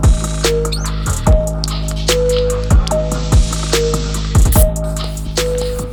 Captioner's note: bicycle wheel clicking; inner tube valve squeaking